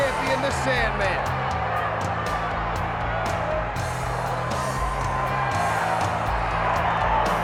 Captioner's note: audience cheers; upbeat music